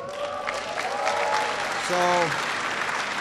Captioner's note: applause